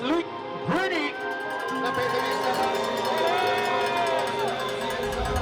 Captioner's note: cheering